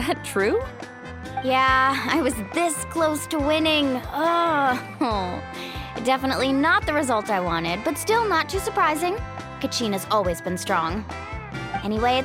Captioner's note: sigh